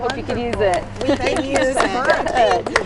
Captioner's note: crowd applauding